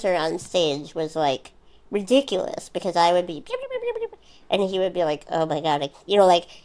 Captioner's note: quick talking sound effect